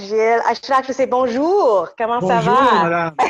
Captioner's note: speaks French